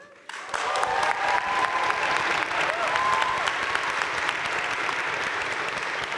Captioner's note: crowd cheering and applauding